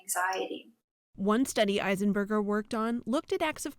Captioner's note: voice-over